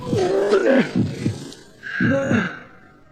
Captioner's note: groaning